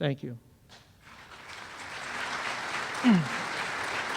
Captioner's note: applause